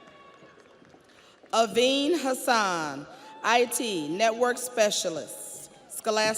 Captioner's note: audience applauds; audience cheers